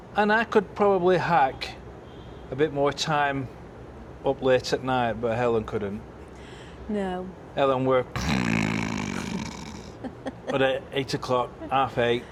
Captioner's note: mimics snoring